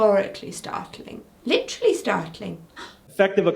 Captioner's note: gasps